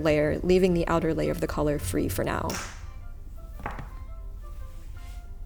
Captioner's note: scissor clack on table